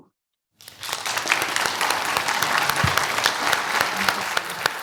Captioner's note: audience applauds